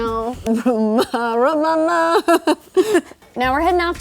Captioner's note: humming